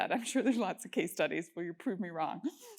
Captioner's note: laugh